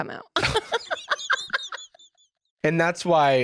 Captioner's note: cackles